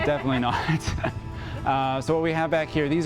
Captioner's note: both laughing